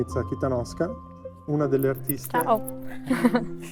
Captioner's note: laughs